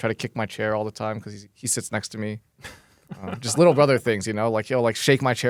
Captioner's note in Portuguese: risos